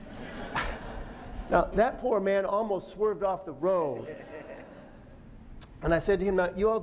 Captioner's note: laughter